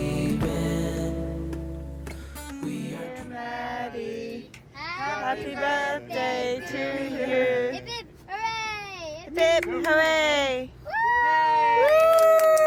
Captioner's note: screaming